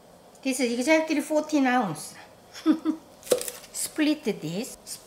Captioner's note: laughs